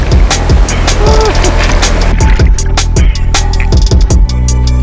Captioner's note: water swirling